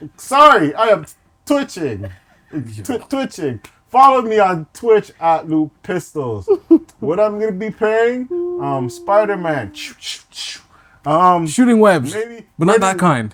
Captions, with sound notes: Sorry, I am twitching. Twitching. Follow me on Twitch at @Lupistols. What I'm going to be playing? Spiderman. (beatboxing) - Shooting webs. But not that kind.